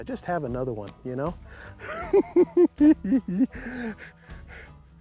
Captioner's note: gig gle s